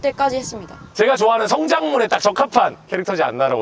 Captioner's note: voice going up